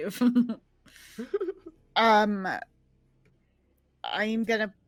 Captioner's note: people chuckling